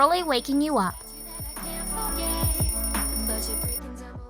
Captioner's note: alarm Sounding